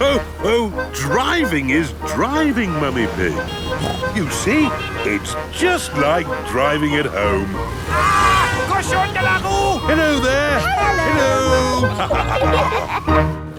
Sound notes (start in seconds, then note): 8.5 yells; 12.3 laughter